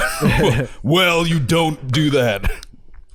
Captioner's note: deep voice